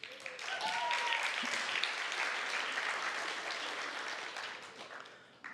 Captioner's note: applause